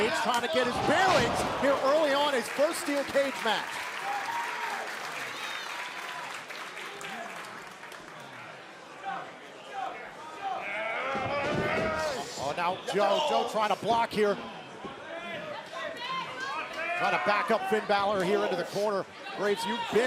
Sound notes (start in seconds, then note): 4.2 crowd cheering; 5.5 crowd chatter; 14.3 crowd chatter